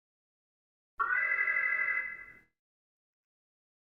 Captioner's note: alarm